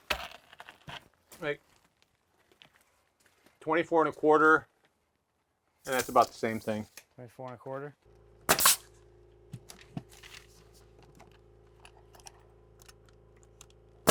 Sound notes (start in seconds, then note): 8.5 nail gun hissing